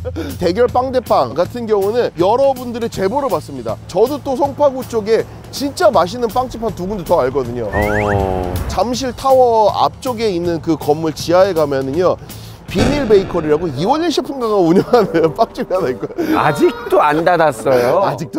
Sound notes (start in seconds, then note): 12.7 ssshh